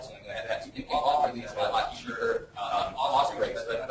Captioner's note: distorted speech